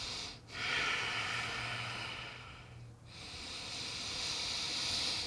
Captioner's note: rhythmic breathing